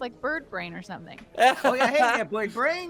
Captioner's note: Cornette laughs